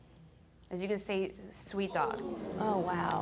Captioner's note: audience groaning